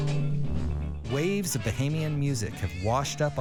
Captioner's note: voiceover